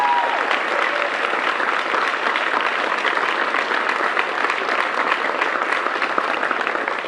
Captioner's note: cheers and applause